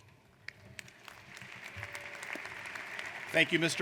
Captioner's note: applauding